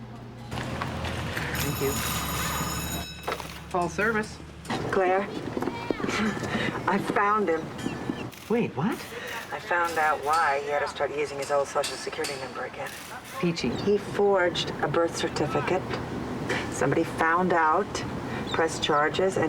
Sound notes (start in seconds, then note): 1.4 bell rings